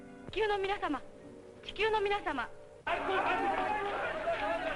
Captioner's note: speaking foreign language